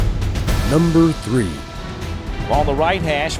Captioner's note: voiceover